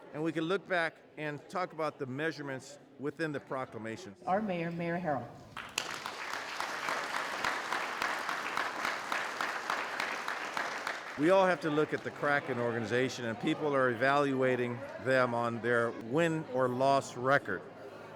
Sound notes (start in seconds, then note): 5.4 applause